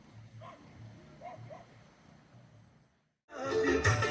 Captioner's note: dog barks